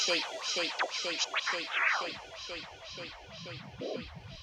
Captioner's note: echoes